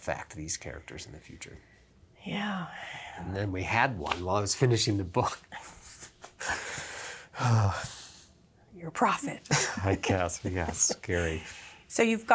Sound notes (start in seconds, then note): 7.3 sighs; 9.3 laughs